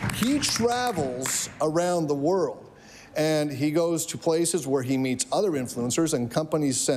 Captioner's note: applause